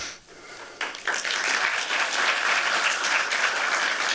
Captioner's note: applause